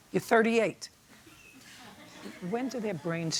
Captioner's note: laughter